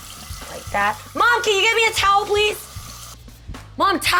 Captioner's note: shouting